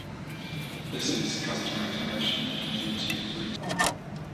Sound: train tannoy

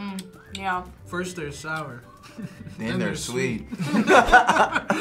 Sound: both laugh; laughs

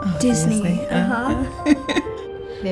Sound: chuckles

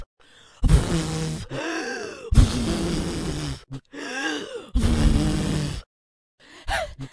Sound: blows several times

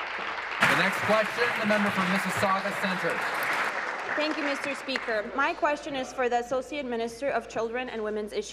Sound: applause

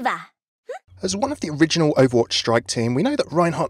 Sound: voiceover

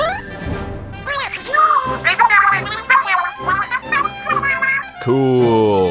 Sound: speaking Inklish

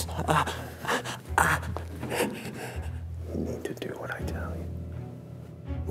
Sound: groaning

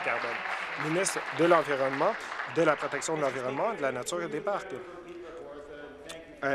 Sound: applause

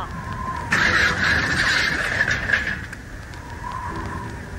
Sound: crash!!

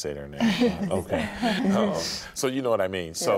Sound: all chuckling

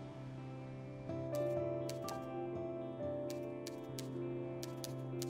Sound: typing

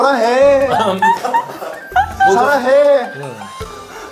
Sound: hahahaha

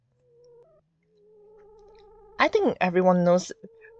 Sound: none

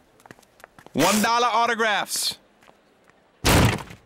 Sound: thud

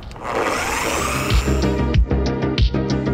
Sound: 15DA whirring; easygoing digital music

